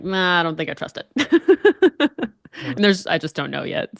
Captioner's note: laughs